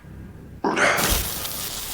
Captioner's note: sighs